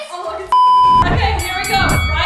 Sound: standby beeping

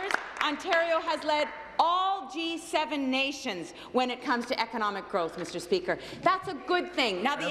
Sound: applause

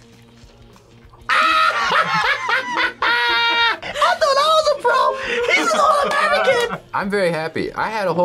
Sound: laughs

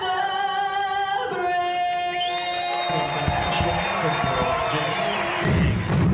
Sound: cheers and applause

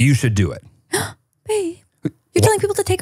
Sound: gasps

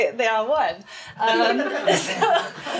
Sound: all laughing

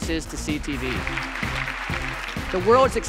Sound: applause

